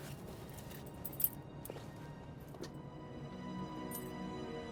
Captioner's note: keys jingle